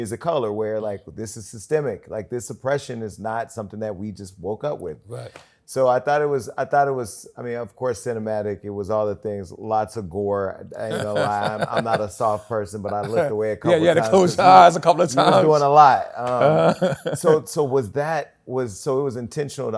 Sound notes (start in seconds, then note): 16.2 chuckles